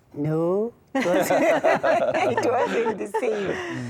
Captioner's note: laughter